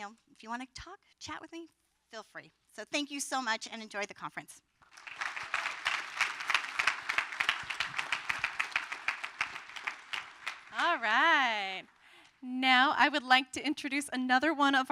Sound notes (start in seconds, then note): 4.8 applause